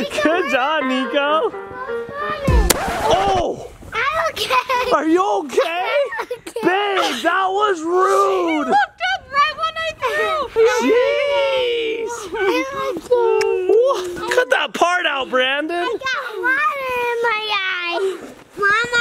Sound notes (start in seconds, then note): 2.5 record scratch